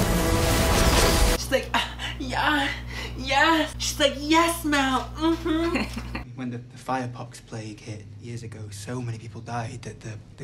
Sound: moans

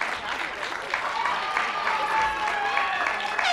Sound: applause

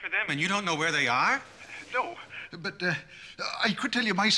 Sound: none

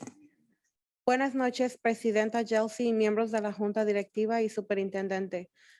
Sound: speaking in foreign language

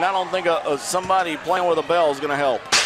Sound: smack

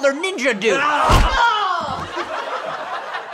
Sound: groans of pain

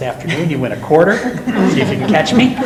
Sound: laughing

